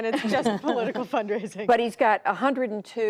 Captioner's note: laughter